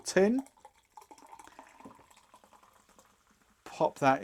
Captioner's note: soda splashing in glass